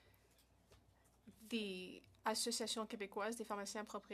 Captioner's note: speaking French